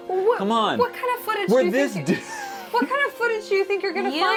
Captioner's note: stuttering